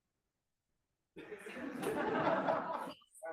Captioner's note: laughter